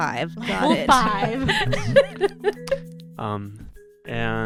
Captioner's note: laughter